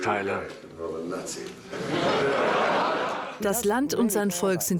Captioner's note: audience laughs